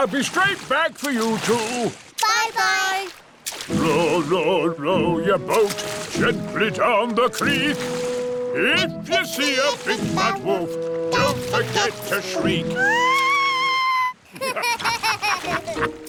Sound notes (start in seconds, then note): 12.8 shrieks; 14.2 laughter